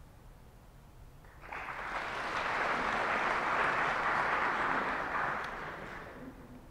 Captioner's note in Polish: oklaski